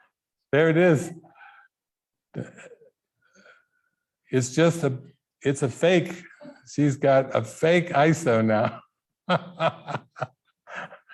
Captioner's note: laughing